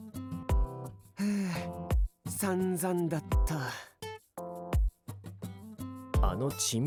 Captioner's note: sigh